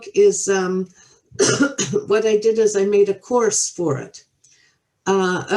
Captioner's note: coughs